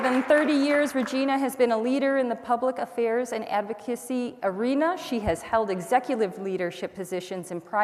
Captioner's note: applause